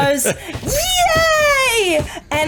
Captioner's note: like a the best 5 year old screams